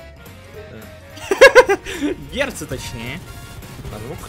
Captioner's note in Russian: истерический смех